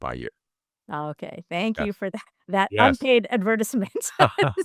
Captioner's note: laugh